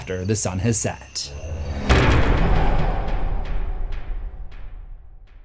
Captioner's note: impact